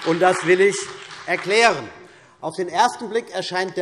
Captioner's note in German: Beifall CDU und BÜNDNIS 90/DIE GRÜNEN